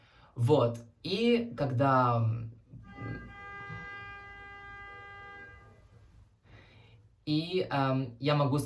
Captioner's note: car beeps